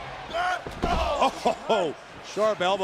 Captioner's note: Roman grunting